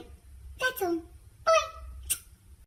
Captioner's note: smooch